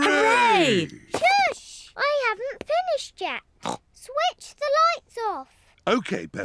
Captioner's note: snorts